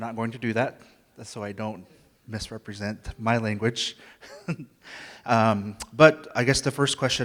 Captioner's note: laughs